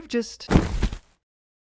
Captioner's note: hard thud